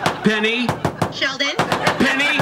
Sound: Penny knocking

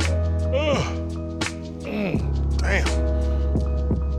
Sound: yawns

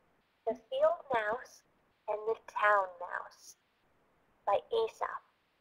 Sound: voiceover

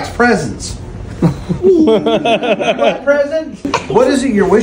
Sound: laughing

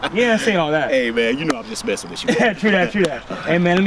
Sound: laughs

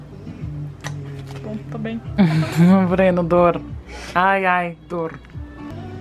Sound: chuckles

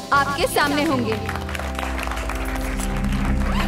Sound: applause

